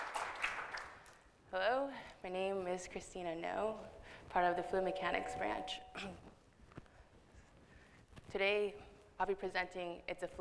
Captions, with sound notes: Hello. My name is Christina Ngo, part of the Fluid Mechanics branch. [clears throat] Today I'll be presenting "It's a Fluid World."